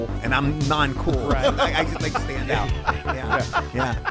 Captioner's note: laughing